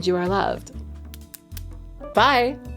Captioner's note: nails clacking